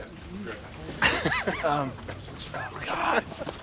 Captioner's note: laughs